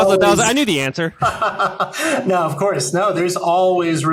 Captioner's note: laughs